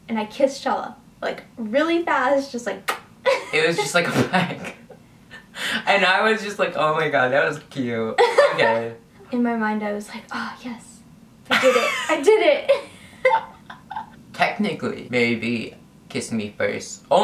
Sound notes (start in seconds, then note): 2.9 kisses; 8.2 laughs; 12.7 laughs